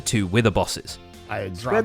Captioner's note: distressed shouting over each other